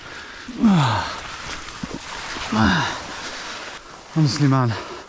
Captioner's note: grunting